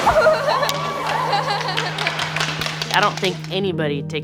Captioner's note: laughs